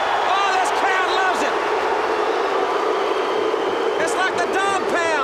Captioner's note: audience barks